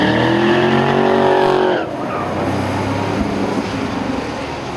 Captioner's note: tires squealing; engines revving